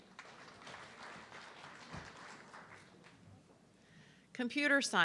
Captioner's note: audience clapping